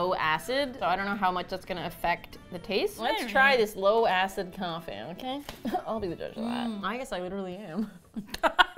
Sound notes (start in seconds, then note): 4.0 nasally; 7.7 laughs